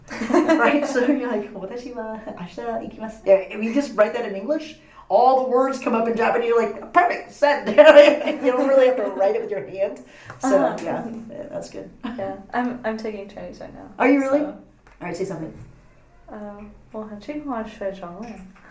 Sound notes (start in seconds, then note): 0.1 laughs; 4.0 speaking Japanese; 14.3 all laugh